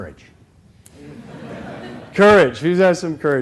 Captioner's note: laughter